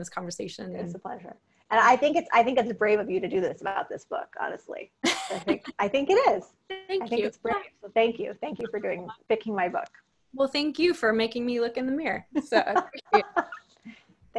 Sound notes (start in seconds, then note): 5.1 laughing; 12.5 laughing